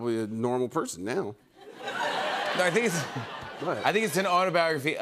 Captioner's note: laughter